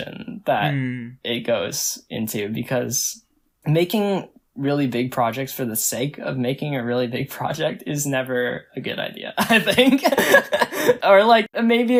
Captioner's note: laughs